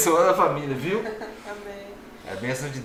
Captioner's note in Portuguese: risos